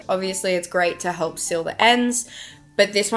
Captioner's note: text box pops